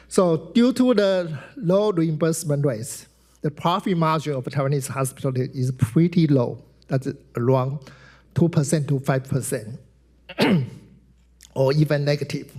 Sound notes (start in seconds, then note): 10.3 clears throat